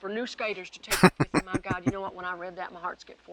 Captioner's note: chuckling